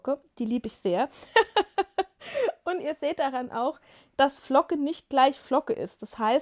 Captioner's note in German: gelächter